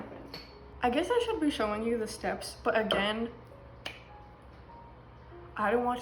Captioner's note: claps